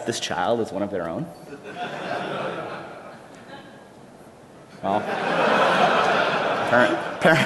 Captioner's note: laughter